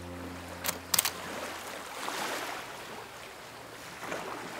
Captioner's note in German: Waves Lopping